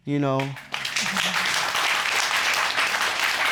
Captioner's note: applause